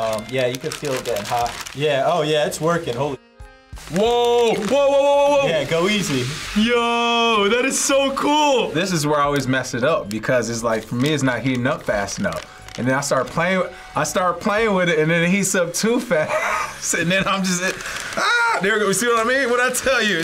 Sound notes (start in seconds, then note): 16.2 laughs